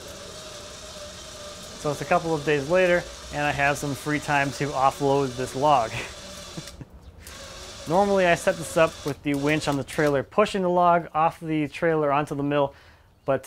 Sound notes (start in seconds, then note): 0.3 engine whirring; 5.9 laughing; 7.4 engine whirring